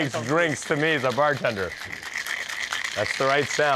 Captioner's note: ice jingling